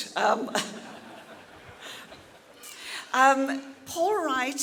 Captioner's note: audience laughing